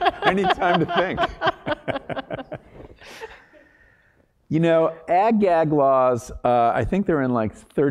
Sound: laugh

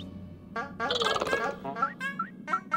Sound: chittering

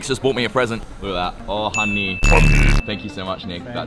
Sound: ominous Voiceover

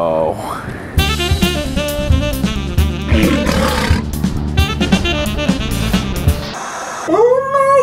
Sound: calm music; lion roaring; static hissing

